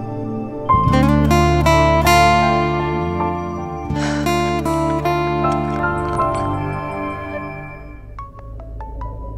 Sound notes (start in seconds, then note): 3.9 Poonam gasps; 8.1 phone ringing